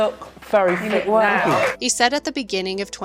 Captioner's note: audience cheers and applauds